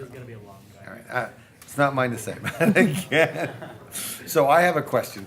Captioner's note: laughing